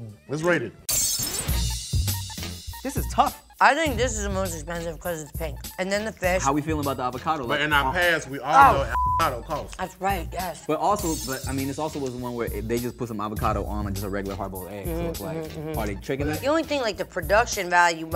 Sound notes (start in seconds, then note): 1.0 upbeat music; 8.8 beep